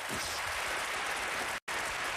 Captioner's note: applause